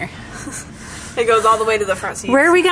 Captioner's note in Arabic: يضحك